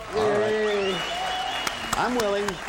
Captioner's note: audience cheers